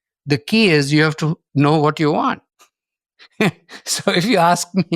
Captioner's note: chuckles